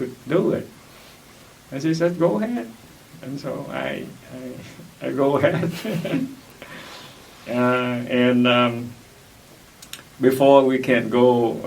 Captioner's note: laughs